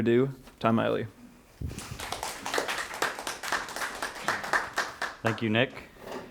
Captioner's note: applause